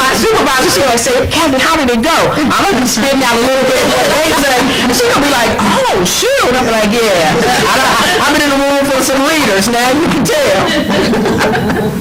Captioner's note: laughter